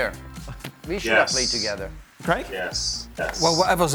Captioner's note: laughter